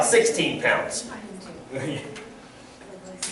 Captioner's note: background Discussion